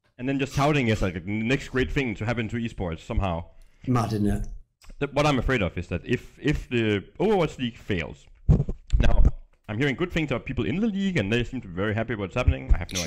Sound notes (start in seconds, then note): none